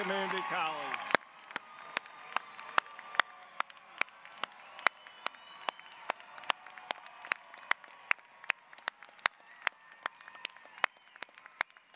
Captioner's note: applause, cheering